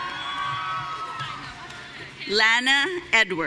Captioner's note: audience cheering